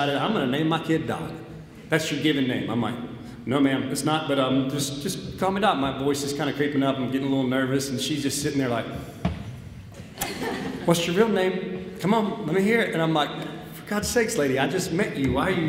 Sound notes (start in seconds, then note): 9.2 foot stamps; 10.0 audience laughs